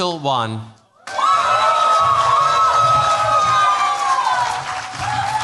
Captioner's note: cheers, applause